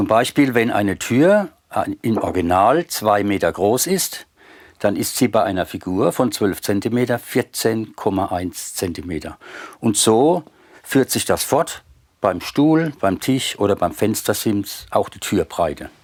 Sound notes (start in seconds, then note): none